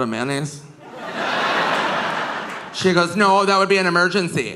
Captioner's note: audience laughing